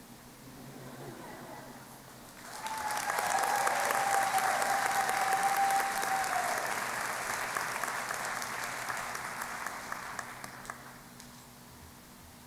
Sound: applause

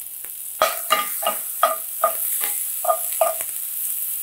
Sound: metal scraping

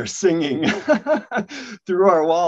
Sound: laughs joyfully

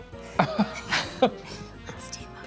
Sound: laughter

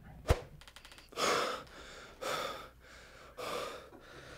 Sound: panting

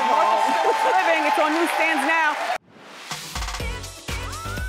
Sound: audience cheering

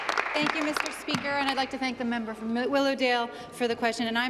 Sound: applause

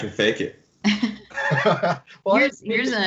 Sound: laughs

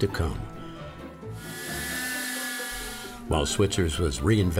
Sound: train whistle blows

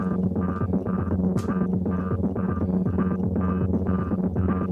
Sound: elastic snaps

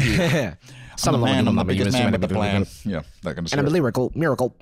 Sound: rhythmic gibberish

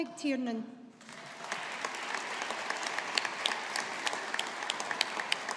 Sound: audience applauding

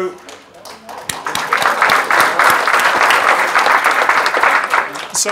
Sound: audience clapping

